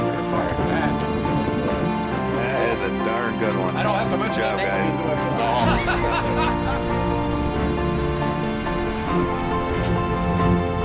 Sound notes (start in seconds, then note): 0.1 gentle music continues; 5.4 man laughs